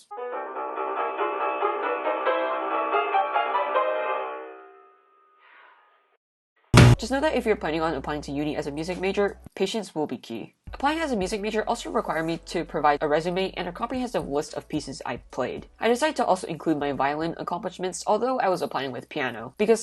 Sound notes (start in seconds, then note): 6.5 bzz; 6.7 smack